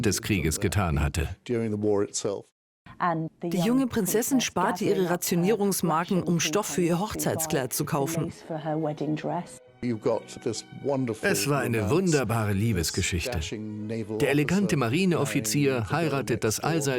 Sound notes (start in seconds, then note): 3.0 voiceover